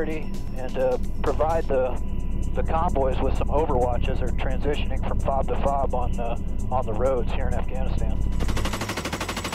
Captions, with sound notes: and provide the convoys with some overwatch as they are transitioning from FOB to FOB on the roads here in Afghanistan. [gunfire]